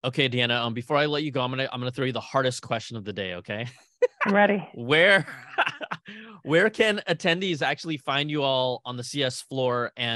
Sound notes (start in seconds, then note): 4.9 laughing